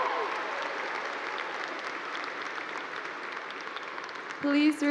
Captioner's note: cheers and Applause